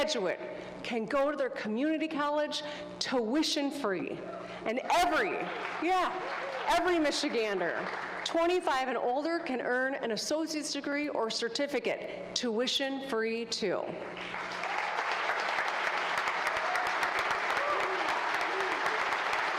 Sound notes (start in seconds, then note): 10.6 applause